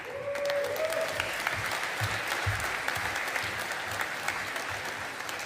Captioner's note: audience applauding